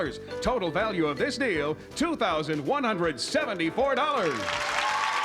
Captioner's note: applause